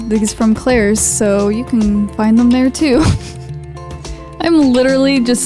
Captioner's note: laughs